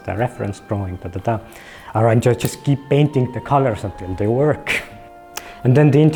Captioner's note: chuckles